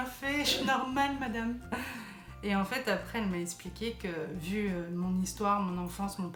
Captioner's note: laughs